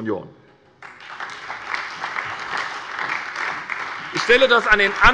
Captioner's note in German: Beifall bei der SPD